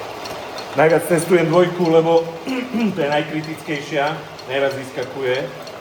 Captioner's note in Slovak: odkašľanie